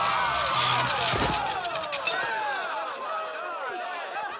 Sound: crowd chattering

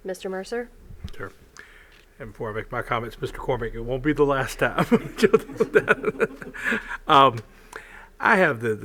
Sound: laughter

